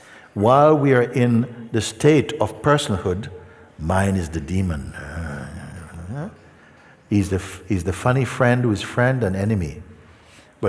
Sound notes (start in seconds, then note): none